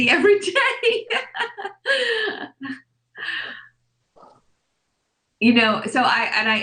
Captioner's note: laughs